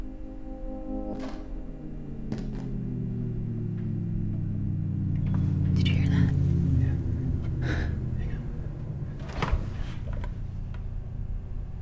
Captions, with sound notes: (boot sound) Did you hear that? Yeah. Hang on.